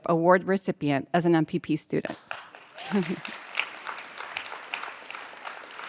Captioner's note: audience applauds